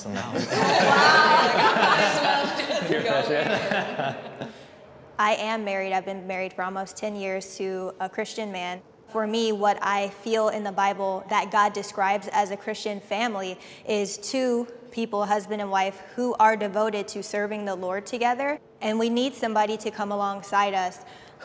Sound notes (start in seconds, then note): 0.2 all laughing; 4.5 laughs